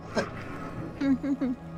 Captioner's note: laughter